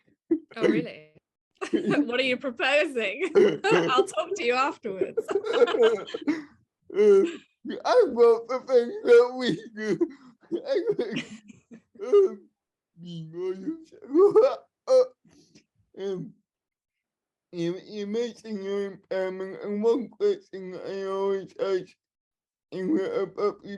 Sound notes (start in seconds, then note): 1.0 laughter; 14.8 laughter